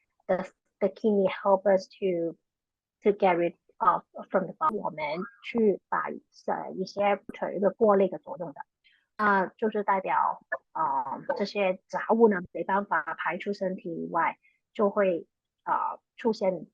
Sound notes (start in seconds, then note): 5.4 speaking chinese